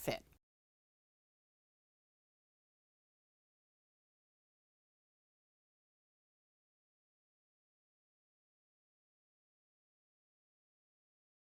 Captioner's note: no Sound Present